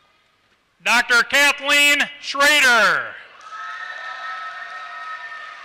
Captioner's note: applause